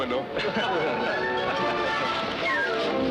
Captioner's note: laughing